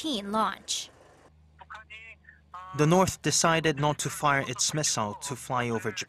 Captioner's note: Korean